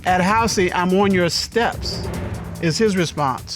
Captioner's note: none